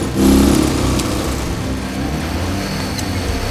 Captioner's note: engine revving